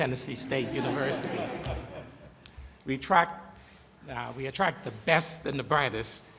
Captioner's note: laughter